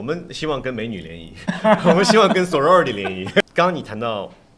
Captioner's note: laughter